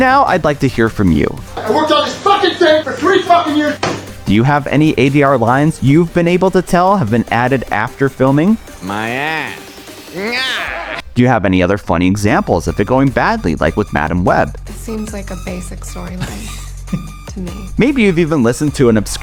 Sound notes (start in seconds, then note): 10.0 laughs in dub